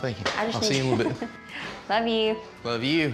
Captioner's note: laughs